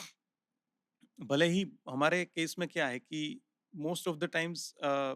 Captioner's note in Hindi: नाक से की जाने वाली आवाज़